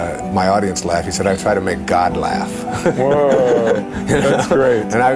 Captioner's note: chuckle